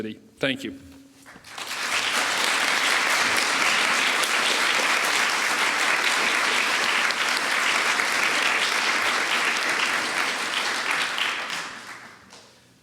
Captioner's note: applause